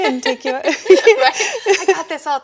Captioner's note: laughing